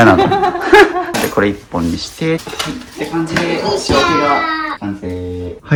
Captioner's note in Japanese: 笑い